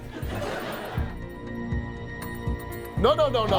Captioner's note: audience laughing; dramatic music